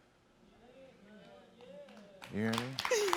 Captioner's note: audience cheers and claps